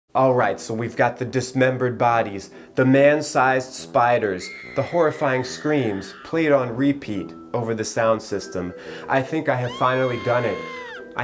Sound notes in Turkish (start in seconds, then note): 4.4 çığlık sesi